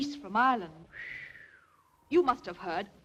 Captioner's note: whistles